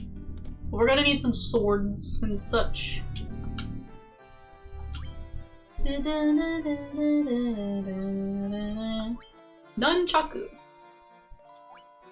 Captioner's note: mimics store jam